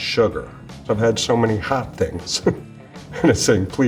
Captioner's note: chuckles